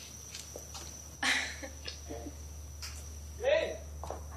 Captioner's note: laughs